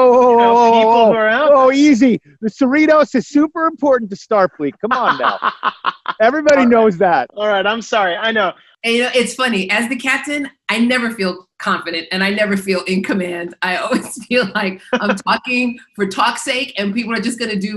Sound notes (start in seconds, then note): 4.7 laughs